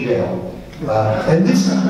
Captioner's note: audience laughs